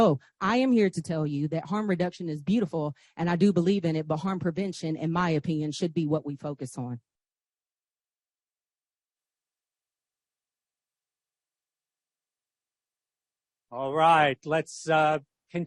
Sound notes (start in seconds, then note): none